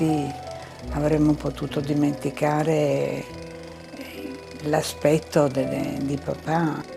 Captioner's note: continues speaking in foreign language